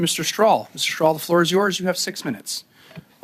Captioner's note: speaking French